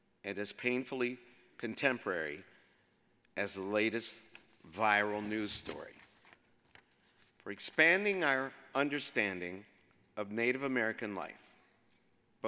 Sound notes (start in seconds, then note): none